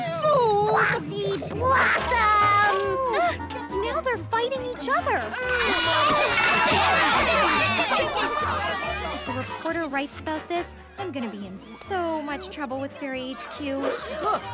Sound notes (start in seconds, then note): 7.9 arguing